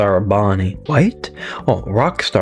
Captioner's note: inhales Oxygen